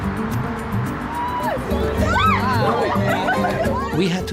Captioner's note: whooping